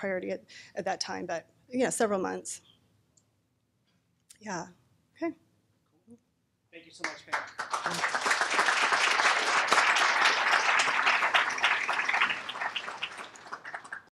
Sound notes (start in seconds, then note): 6.9 applause; 6.9 voiceover